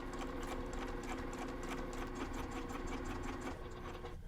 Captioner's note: sewing machine whirring